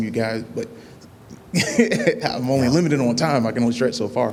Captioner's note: laughter